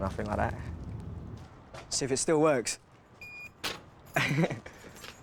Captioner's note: beep!